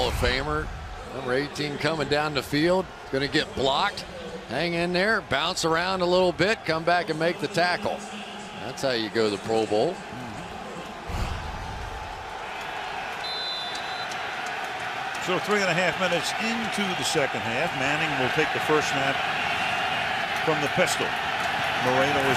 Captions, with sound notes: the great Hall of Famer. Number 18, coming down the field. Going to get blocked. Hang in there, bounce around a little bit, come back and make the tackle. That's how you go to the Pro Bowl. [pa announcement] [whistle blows] So three and a half minutes into the second half, Manning will take the first snap from the pistol.